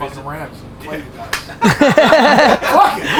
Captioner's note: group laughter